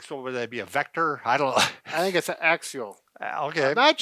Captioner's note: laughs